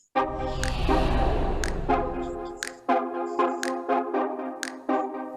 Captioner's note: upbeat music; air swooshing